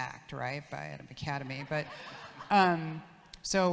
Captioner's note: audience laughs